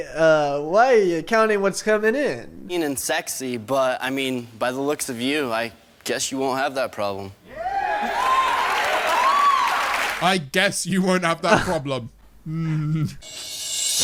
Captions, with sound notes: Why are you counting what's coming in ? - Sexy but I mean, by the looks of you, I guess you won't have that problem. (audience cheering) - I guess you won't have that problem.